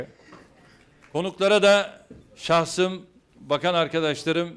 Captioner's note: non-english speech